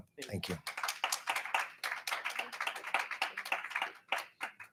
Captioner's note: attendees clap